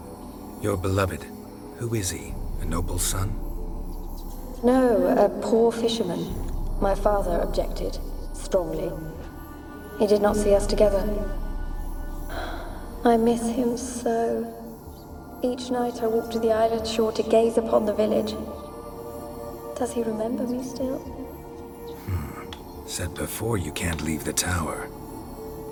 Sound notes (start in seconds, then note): 12.2 wistfully; 13.2 sigh